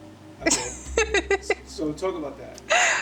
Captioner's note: laughs